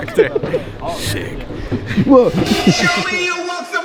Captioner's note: exclaims